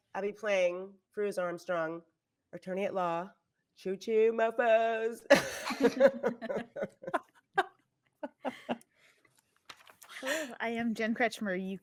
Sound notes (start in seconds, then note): 5.4 everyone laughing